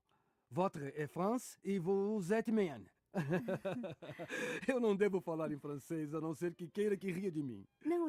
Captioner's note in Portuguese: risadas